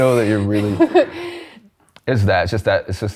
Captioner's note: laughs